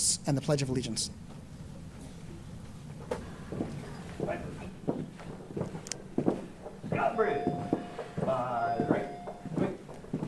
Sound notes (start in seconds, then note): 4.4 marching commands